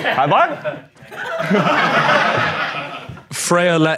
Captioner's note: audience laughing